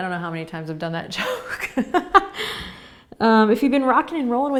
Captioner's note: laughing